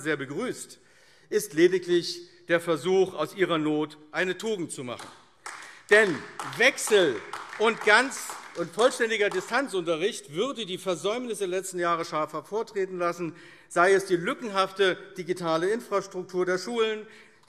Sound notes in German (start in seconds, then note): 5.3 Beifall AfD